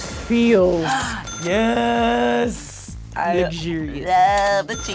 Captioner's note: cash register dings; cash register dings